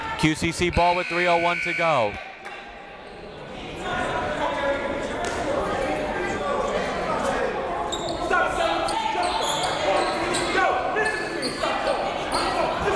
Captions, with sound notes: QCC ball with 3:01 to go. (buzzer)